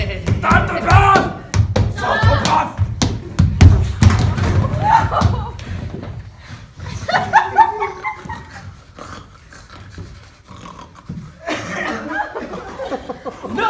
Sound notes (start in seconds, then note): 8.4 pig sniffing; 10.0 pig snorking; 11.7 pig sounds